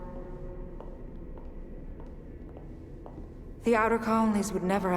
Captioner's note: footsteps